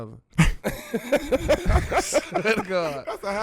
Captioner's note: laughing